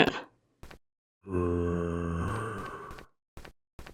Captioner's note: zombie groans in understanding